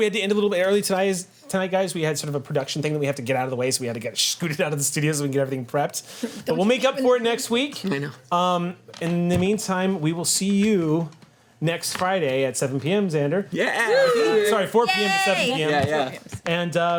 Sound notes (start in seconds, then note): 13.5 group cheers; 13.7 overlapping chatter